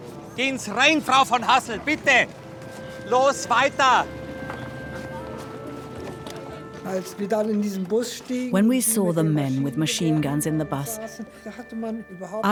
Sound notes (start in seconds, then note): 6.8 speaks in foreign language